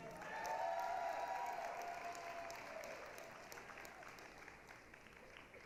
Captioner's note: applause, cheering